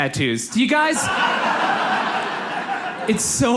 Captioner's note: audience laughs